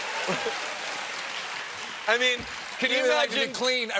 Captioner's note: cheers and applause